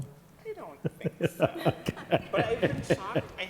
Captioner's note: laughing